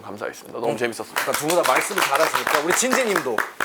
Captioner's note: applause